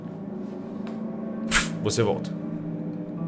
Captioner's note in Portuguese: Pff